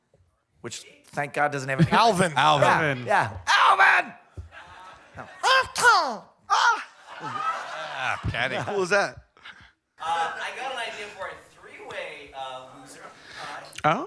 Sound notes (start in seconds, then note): 5.1 Tom Kenny imitating Alvin